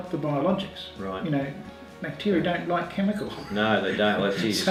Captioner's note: laughing